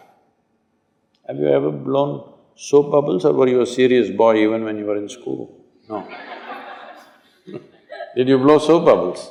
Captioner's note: laughter